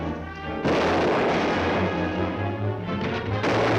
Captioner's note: dramatic music; guns firing